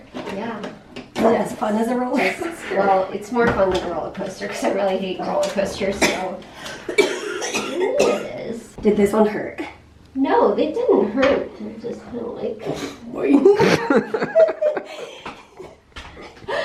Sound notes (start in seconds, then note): 6.7 coughing; 13.3 laughter